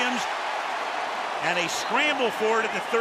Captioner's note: cheering